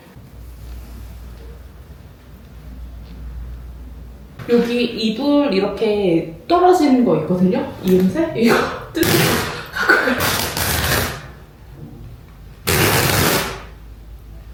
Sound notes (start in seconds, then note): 12.6 riiiiip